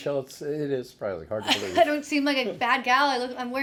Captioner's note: laughing